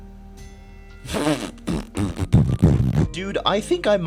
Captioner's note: fart noises